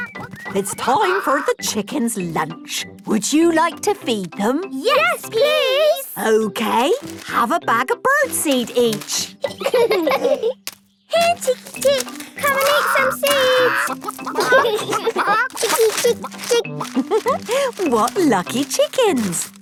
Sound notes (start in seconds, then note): 9.2 laughing